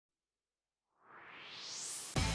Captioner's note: swoosh